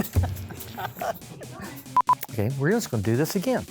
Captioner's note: laughter